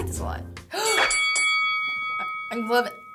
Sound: gasps; bell rings

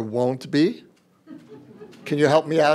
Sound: laughter

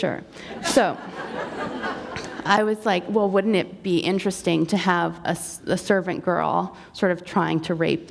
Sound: laughter

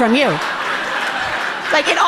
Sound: audience laughing amusingly

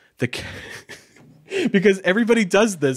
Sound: laughing

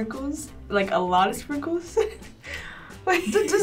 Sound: laughs

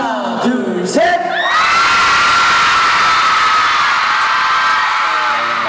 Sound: CARAT: whoop

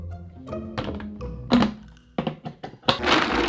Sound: lid snapping

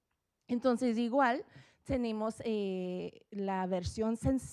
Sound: speaking Spanish

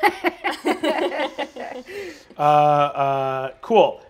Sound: laughing

